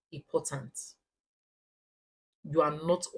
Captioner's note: paause